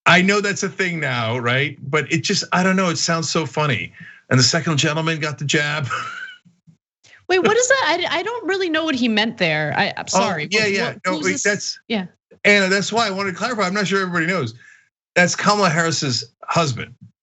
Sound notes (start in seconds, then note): 5.4 laugh